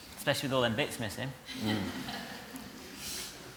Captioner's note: laughter